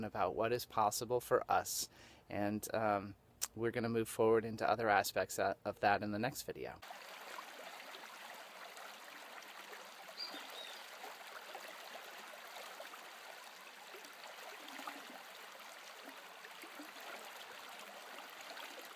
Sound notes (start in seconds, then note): 7.3 babbling water